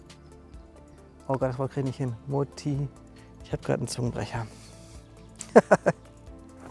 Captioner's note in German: lachen